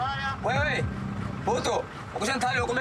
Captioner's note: Portuguese spoken audio